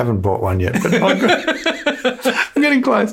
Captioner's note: laughs